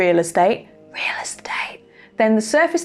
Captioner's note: whispers